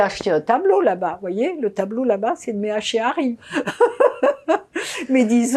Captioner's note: laughing